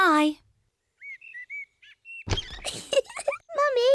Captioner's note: birds chirping; giggles